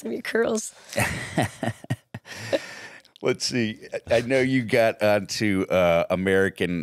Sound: laughs

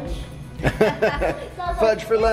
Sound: laughing

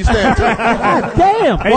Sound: all laugh

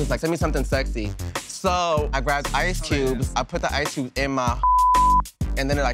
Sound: beep

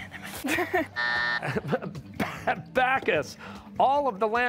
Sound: buzzer

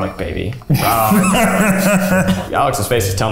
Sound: laughs

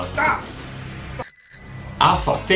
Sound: ring-ring

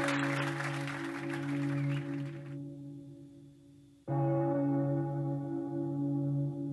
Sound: bell sounding

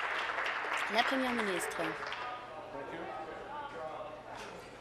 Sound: applause

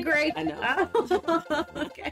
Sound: both Laugh

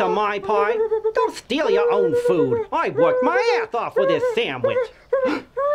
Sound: mouse stutters nervously; mouse stutters nervously

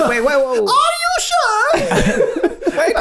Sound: Charlie High Pitched; all laughing

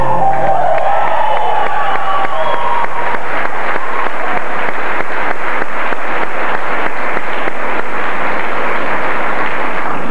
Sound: applause

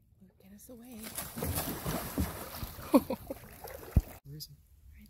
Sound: water splashes

